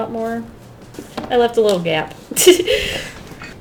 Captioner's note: laughs